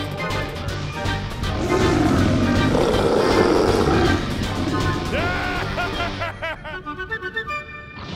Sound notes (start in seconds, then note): 5.2 laughing